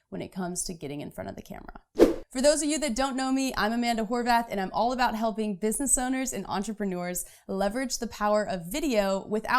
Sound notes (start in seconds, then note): 1.9 whooshing